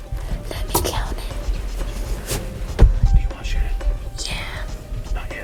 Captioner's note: whispering